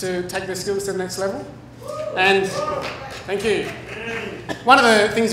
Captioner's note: cheers